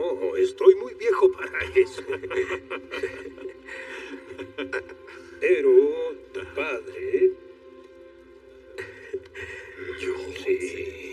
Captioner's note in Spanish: Risas